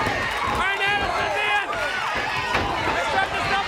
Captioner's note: crowd chatter